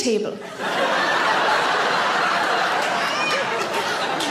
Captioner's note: audience laughs